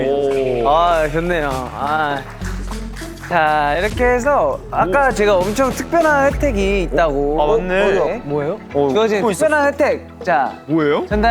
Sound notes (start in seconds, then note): 0.0 haha